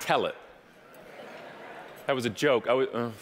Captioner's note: murmuring